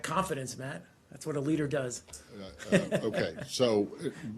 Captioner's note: laughter